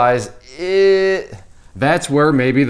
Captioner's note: makes iffy sound